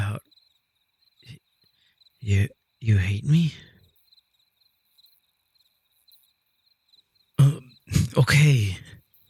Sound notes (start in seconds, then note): 1.8 SFX: Him retching and sobbing